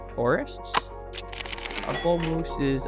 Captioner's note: camera flicks